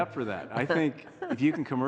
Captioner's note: laughing